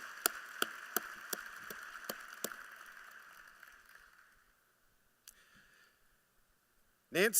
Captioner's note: applause